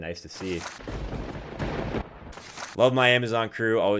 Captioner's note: thunder cracks